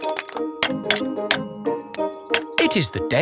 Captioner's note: clanking